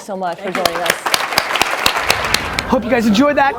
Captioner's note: audience applause